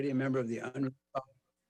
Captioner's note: speaks faintly